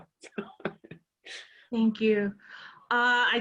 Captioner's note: laugh